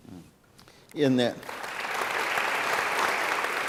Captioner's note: applause